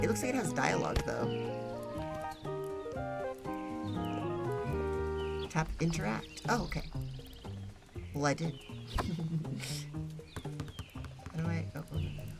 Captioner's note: giggles